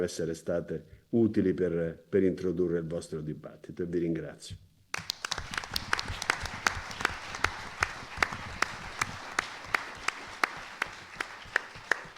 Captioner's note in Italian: Applauso